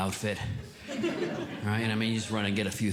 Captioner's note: audience Laughing